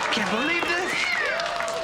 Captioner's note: crowd cheering